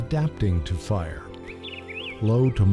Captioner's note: birdsong